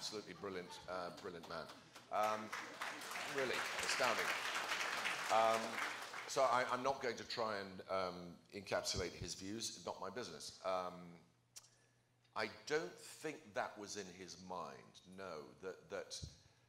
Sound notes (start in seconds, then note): 1.1 applause